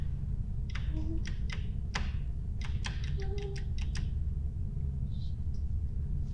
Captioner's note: Natalie whimpering; switch clicking